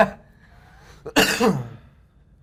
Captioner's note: coughs